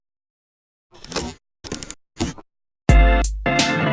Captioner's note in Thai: เสียงเอฟเฟกต์